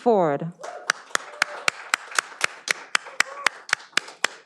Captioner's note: all applauding